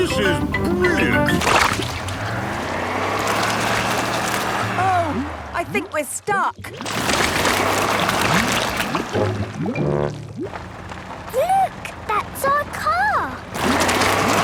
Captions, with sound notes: - This is brilliant! (sloshing, tires whirring) - Oh... I think we're stuck! (whirring) - Look! That's our car!